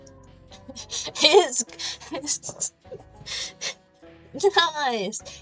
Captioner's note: laughing